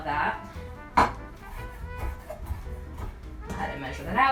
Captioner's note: glass clatters